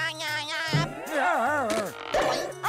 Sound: laughing; yelping

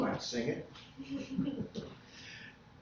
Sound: laughter

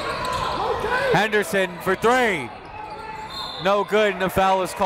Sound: whistle

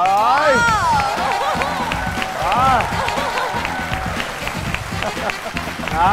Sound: applause

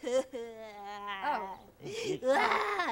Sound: crying

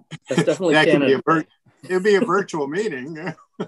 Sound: all laughing; laughs

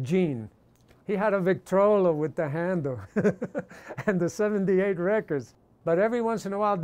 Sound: laughs

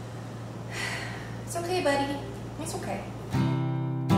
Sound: sighs; gentle guitar music

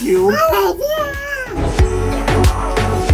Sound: child speaking gibberish; upbeat happy music

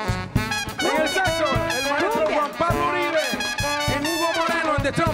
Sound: speaks in Spanish

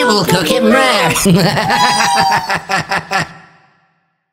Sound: robot Laughter

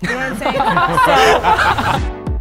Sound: participants laughing; upbeat music

